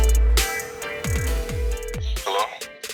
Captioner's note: ringing